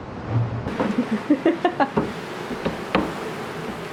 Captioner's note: giggling